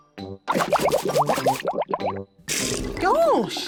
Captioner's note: bubbles